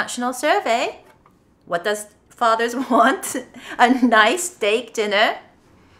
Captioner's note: chuckles